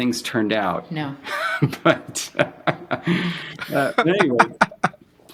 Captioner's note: laughing